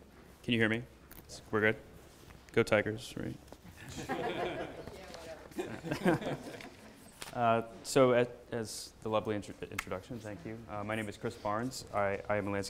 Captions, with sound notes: - Can you hear me? We're good, go tigers, right. (laughter) So as the lovely introduction, thank you, my name is Chris Barnes I am a